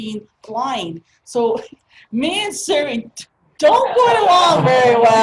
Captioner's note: laugh